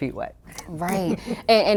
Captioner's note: laughs